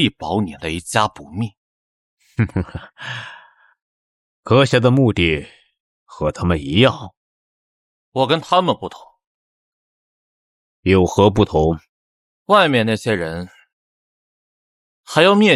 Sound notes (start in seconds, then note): 2.3 chuckles